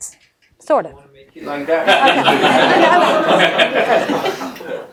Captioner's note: laughing